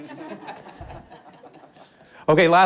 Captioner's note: audience laughs